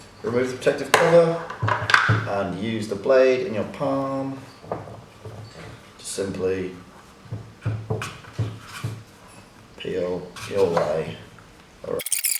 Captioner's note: fasting forward noise